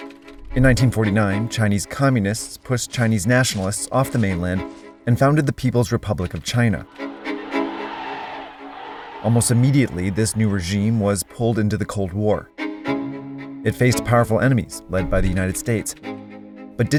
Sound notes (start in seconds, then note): 0.0 computer keyboard clattering; 6.8 crowd cheering; 6.8 mysterious music